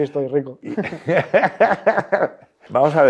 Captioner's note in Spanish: Risas